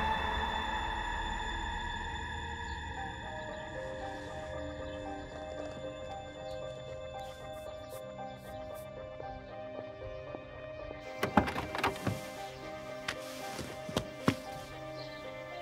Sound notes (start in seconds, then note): 11.1 car door opens